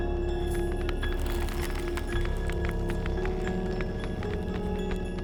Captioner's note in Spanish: huesos crujiendo